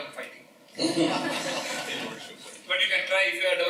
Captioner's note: laughter